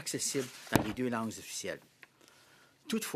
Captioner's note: speaking French